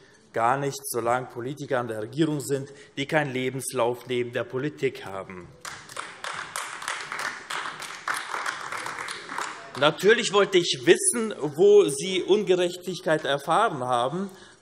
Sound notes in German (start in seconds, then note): 5.6 Beifall : Von wem reden Sie denn?